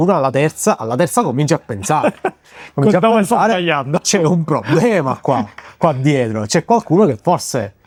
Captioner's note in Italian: risate